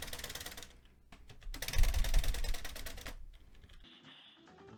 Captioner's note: keyboard noises